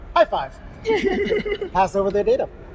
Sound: laughter

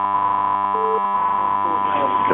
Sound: beep sound

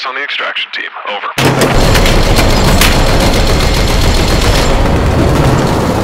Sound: bullets Ricocheting, .50 Cal Firing

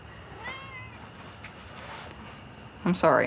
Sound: cat meowing

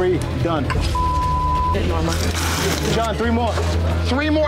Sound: beep

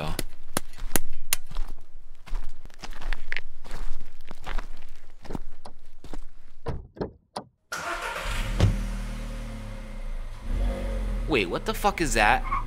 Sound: patting down dirt and walking; car starts

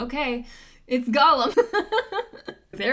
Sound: laughs

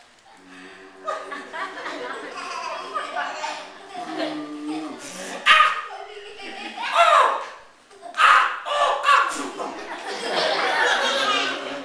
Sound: WOLF takes a long, deep breath and blows

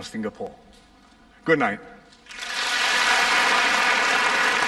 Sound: applause

